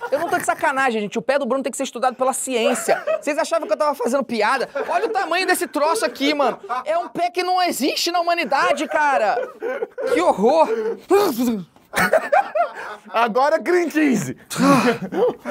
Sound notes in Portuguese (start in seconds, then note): 2.6 risadas; 6.3 risadas; 9.6 risadas